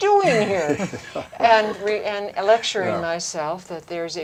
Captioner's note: laughter